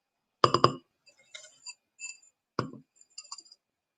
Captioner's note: taps jar